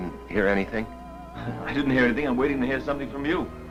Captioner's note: laughs